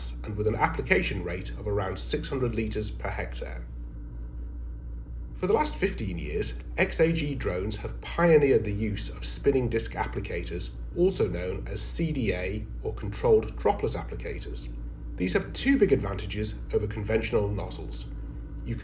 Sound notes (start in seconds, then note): 3.8 drone humming